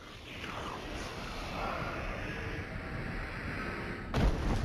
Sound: sucking noises

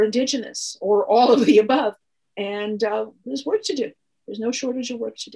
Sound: chuckles

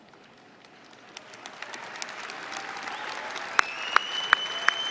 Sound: applause

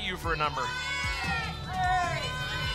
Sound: audience shouting numbers

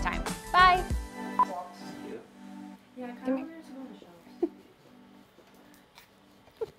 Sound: indistinct conversation; music fades; beep

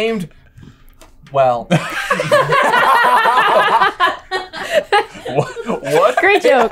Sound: everyone laughs

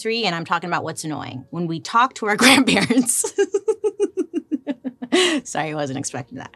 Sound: laughs

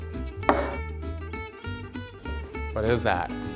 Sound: plate clunking against table

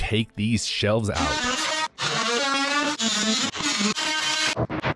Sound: chainsaw buzzing

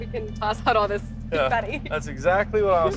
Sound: tires squeak

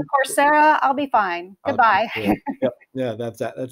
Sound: laughing

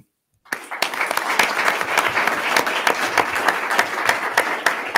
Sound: attendees clapping

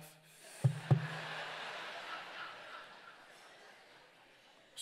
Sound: congregants laugh

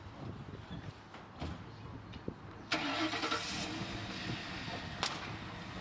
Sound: car starts

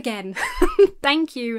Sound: chuckles

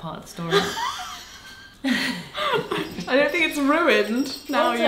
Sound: laughing

